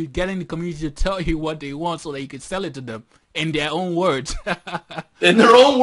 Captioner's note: laughter